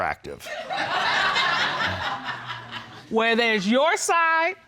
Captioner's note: audience laughing